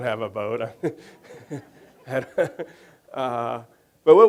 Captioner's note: laughing